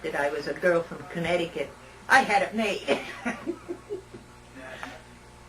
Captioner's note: laughter